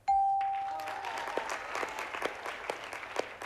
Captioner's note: applause